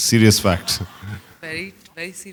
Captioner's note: laughter